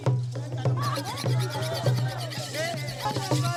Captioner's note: knife sharpening sounds; chanting